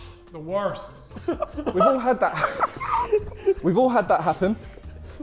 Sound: Sidemen laughing

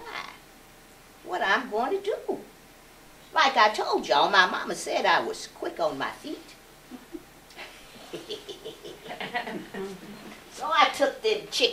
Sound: giggles

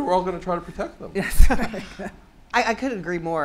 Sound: laughter

